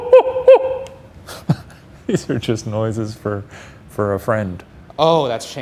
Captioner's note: laughs